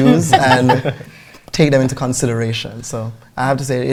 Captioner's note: laughter